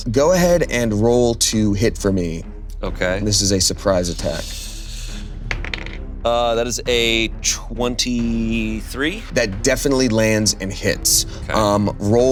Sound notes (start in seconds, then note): 5.5 die rolling